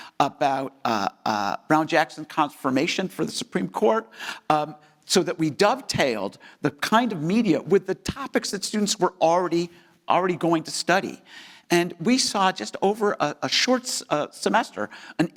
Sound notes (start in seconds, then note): none